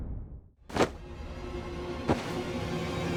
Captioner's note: thwack sound